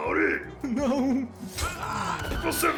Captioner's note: slash sound